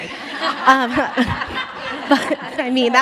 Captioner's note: all laugh